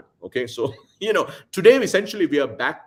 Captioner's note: laughs